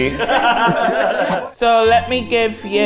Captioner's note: everyone laughs